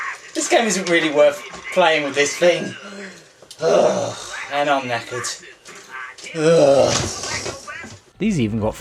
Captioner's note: groans